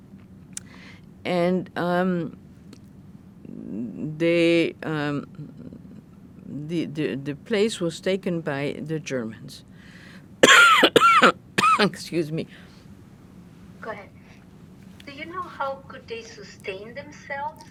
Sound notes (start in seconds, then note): 10.4 coughing; 15.1 drinking